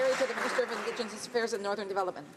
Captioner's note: some Applause